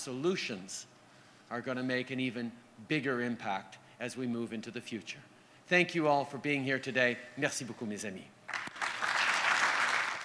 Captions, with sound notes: solutions, are going to make an even bigger impact as we move into the future. Thank you all for being here today. Thank you very much, my friends. (Applause)